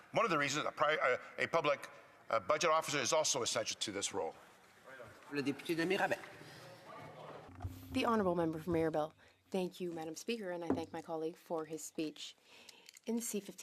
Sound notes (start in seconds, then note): 10.3 speaking French